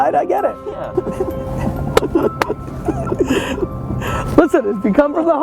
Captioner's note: laughing